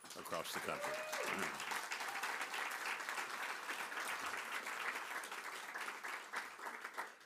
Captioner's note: applause